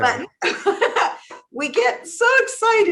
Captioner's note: laughs